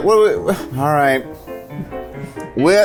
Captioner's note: sighs